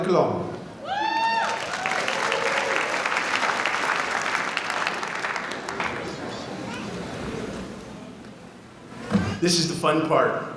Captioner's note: applause